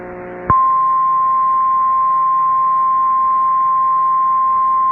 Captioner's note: 1050 HZ tone